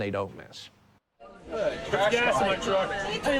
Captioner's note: loud party